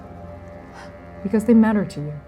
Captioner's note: sighing; exhaling, sniffing